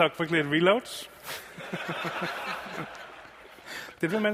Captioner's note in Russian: смех